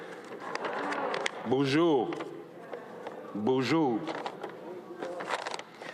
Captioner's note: speaks in Ojibwe